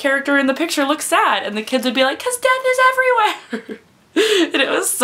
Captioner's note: laughs